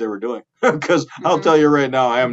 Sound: chuckling

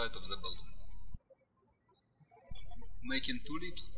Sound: bird chirping

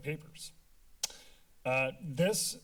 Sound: tongue clicking

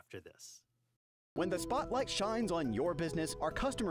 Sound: voiceover

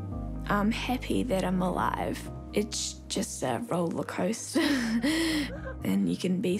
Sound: laughs

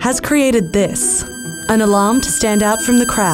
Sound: high-pitched beeping

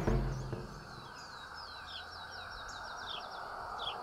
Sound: birds chirping

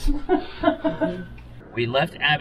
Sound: laughs

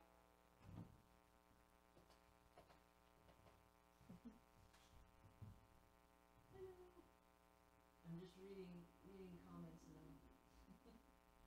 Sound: chuckles

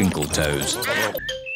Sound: duck quacking

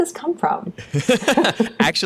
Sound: laughter

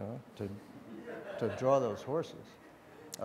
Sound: audience laughs

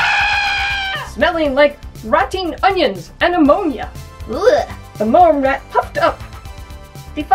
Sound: screaming

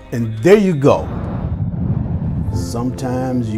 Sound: screen whooshing

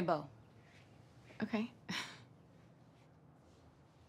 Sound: chuckles

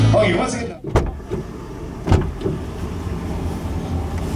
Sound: car door opening

